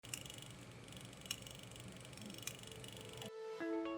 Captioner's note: film tape whirring